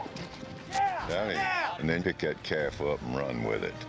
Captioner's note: hoof beats